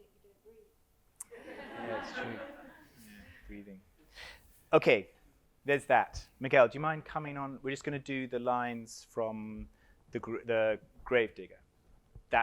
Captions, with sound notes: With no music, you don't breathe. (audience laughs) Yeah, it's true. Yeah, breathing, okay, there's that. Miguel, do you mind coming on? We're just gonna do the lines from the grave digger.